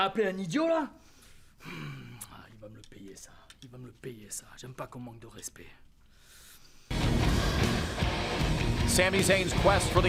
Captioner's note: speaking in foreign language